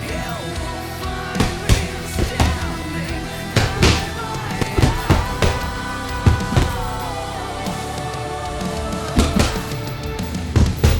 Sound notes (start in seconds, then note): 1.3 punching back thumping; 4.3 gentle upbeat music; 5.7 punching back thumping; 8.5 gentle upbeat music; 10.7 punching back thumping